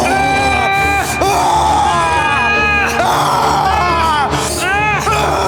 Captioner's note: Brown screaming; Siegmund yelling